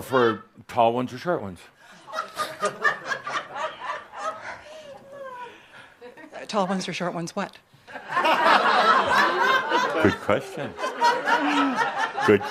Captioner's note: more giggles; laughter